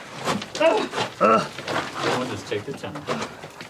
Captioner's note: people grunting